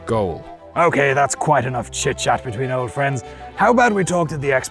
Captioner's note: knightly voice